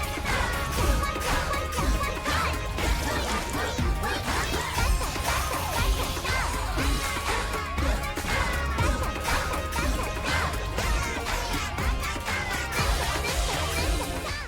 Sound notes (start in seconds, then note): 1.0 chanting and counter-chanting; 10.9 chanting continues